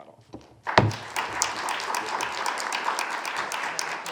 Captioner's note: audience applauding